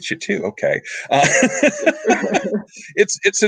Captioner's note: laughing